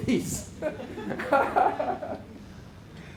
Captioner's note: laughter